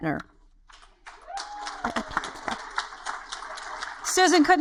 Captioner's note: audience applaud